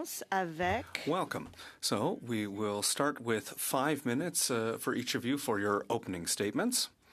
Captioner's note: speaking French